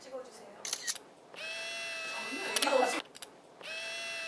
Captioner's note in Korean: 찰칵